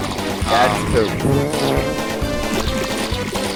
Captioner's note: fart noises and splashing sounds